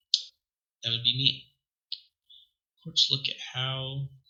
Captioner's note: none